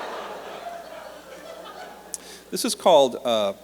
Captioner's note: laughter